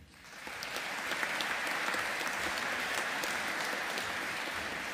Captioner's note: audience applauding